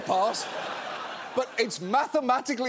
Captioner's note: audience laughing